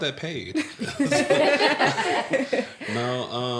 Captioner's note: laughter